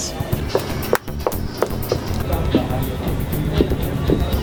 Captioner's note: clapping